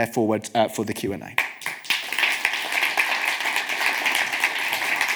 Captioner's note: audience claps